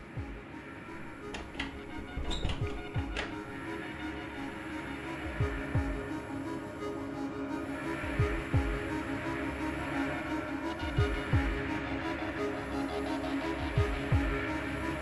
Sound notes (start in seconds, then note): 2.2 door closes and locks; 3.4 ominous music